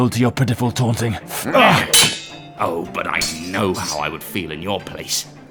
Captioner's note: swords Clash; sowrds Clash